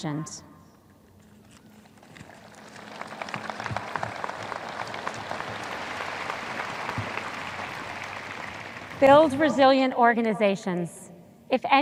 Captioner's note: audience applause